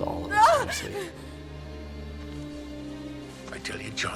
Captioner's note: Fanny cries out